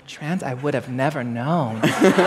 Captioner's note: laughter